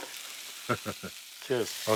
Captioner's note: chuckles